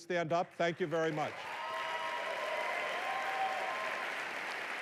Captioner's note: applause